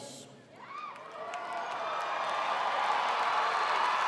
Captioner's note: crowd cheering